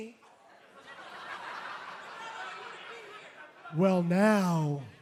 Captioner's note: laughter